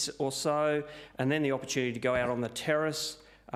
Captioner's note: none